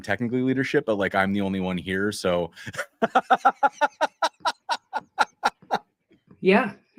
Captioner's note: laughter